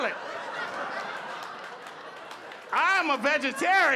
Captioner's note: audience laughing